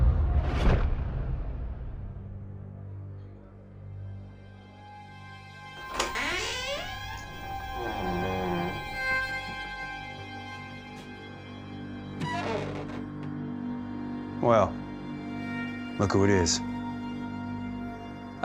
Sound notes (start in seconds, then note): 5.8 door squeaks open; 12.1 door squeaks closed